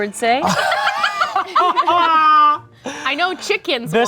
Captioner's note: laugh